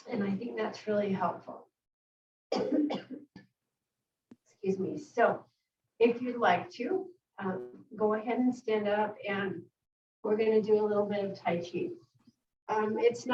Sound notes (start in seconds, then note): 2.5 coughs